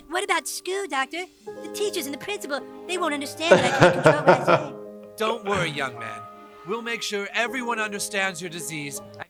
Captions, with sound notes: - What about school doctor? The teachers and the principal. They won't understand that (murmurs) - Don't worry young man. We'll make sure everyone understands your disease.